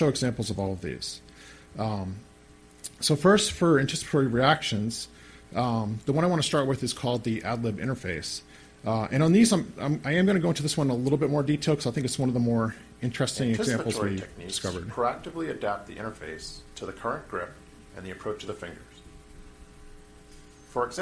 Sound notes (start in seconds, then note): 14.8 voiceover